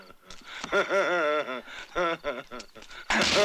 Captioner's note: Indio continues to laugh